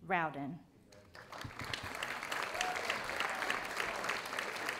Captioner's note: audience applauding